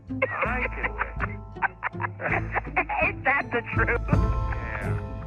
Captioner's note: laughs